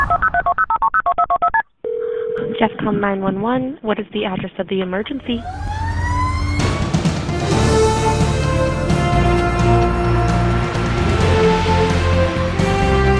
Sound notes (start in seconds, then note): 1.8 phone dialing; 5.2 siren wailing; 5.2 dramatic music